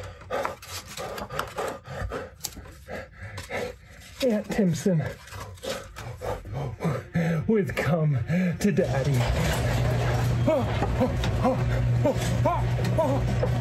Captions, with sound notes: Ant Timpson with Come To Daddy [garage door opening]